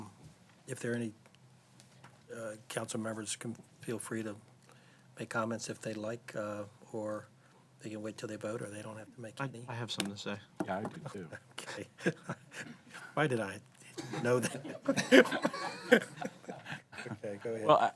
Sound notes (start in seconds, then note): 14.0 laughter